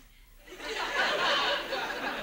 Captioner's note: audience laughs